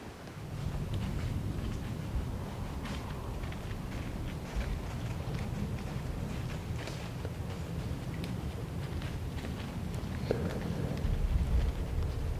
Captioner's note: footsteps heard